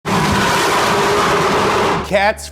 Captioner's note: car engine revving